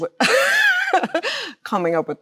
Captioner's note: Chloe laughs